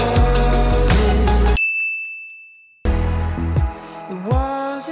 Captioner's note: bell dings